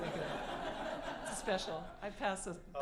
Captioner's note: laughter